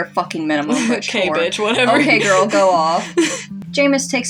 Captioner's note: chuckle; laugh